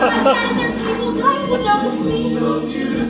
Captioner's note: STONER CHICK, spoken